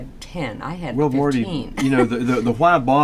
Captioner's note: laughs